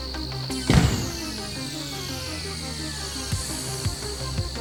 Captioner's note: door closing